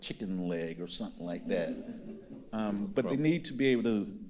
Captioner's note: audience laughing